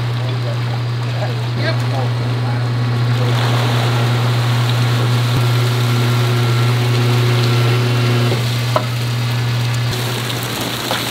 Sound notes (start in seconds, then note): 2.5 water dripping